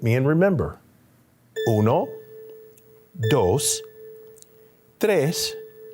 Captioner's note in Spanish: hablando en español